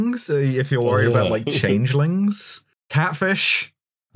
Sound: laughs

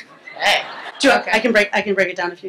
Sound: laughter

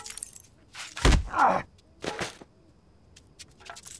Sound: Spanish; grunt in pain

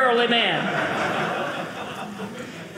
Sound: audience laughing

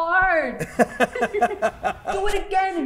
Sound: laughing

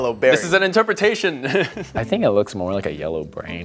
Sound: laughs

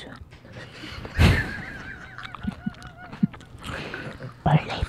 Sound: all giggle

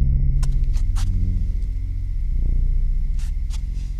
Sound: rustling

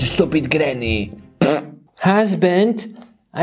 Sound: farting

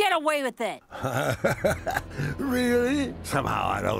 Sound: laughing

